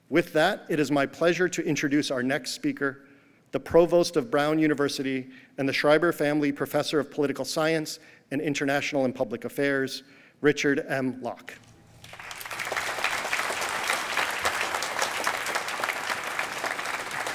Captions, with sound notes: With that, it is my pleasure to introduce our next speaker, the Provost of Brown University and the Schreiber Family Professor of Political Science and International and Public Affairs, Richard M. Locke. [APPLAUSE]